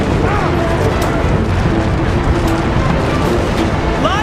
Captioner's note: grunting